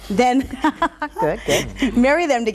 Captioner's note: giggles